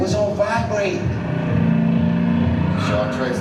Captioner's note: engine purring